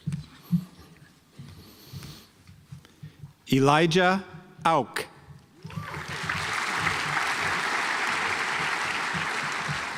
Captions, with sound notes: Elijah Auch (audience applauds)